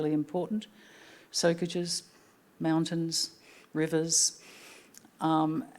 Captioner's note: speaking Anmatyerr